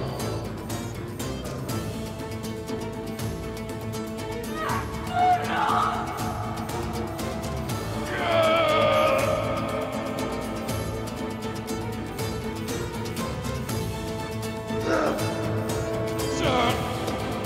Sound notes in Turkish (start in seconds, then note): 7.8 Bağırma sesi; 10.3 Müzik - Gerilim